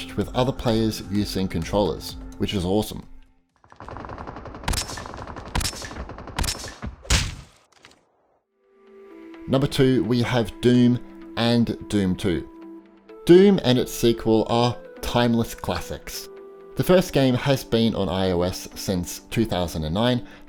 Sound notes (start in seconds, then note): 3.7 gunshots